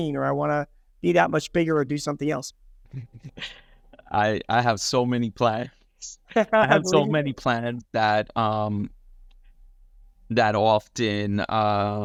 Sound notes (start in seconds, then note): 5.9 laughing